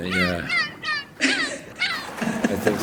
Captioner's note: chirping continues; laughter